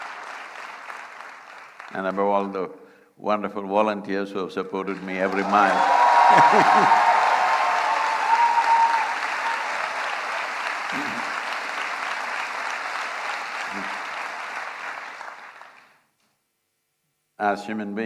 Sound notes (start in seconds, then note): 0.0 applause; 11.3 cheering/Applause; 14.8 laughs